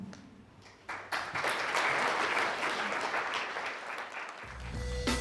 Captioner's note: audience applauding